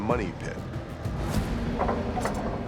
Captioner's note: machine whirring